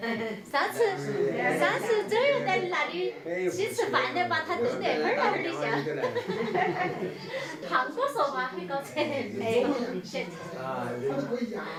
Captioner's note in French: Ils parlent en dialecte